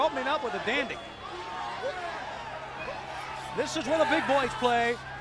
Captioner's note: crowd chatter